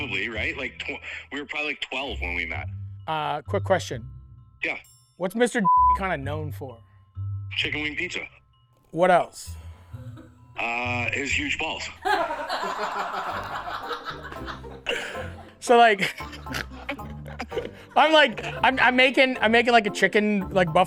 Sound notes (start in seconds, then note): 12.4 crew members laughing; 16.0 Matty chortles